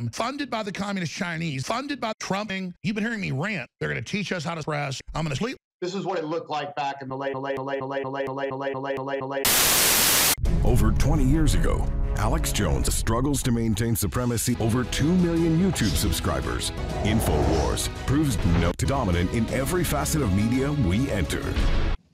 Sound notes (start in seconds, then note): 9.4 loud static noise